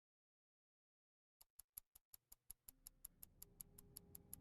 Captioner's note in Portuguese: tique-taque do relógio